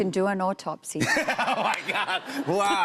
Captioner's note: laughter